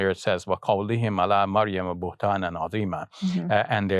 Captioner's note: speaks in Arabic